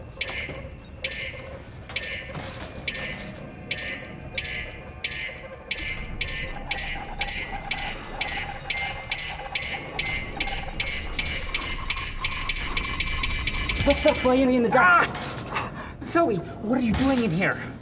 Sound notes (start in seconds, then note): 3.5 scanner beeps increase tempo; 11.8 scanner squeals